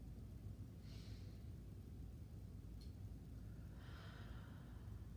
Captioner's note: breathing deeply